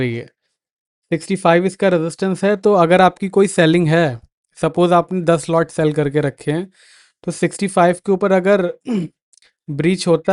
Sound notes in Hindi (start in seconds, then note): 8.8 गला साफ़ करने की आवाज़